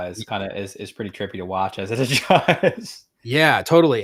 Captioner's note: laughs